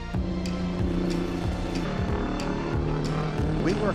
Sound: engine revving

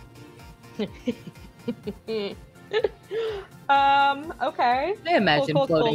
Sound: laughs

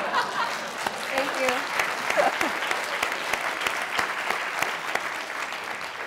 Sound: laughter; applause

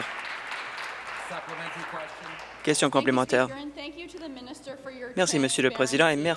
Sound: applause

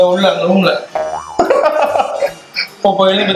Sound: laughs

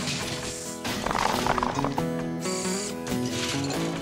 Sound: clattering & Banging

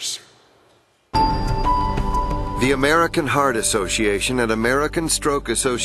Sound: voiceover

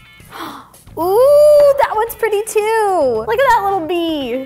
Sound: gasping

